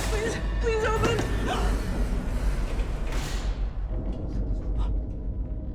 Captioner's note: gasps; elevator door whirring; eerie music